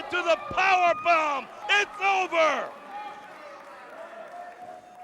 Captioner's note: crowd chatter